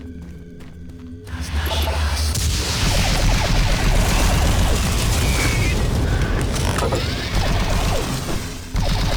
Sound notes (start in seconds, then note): 0.0 suspenseful music; 2.7 gun firing